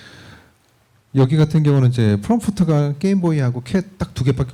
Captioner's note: speaking korean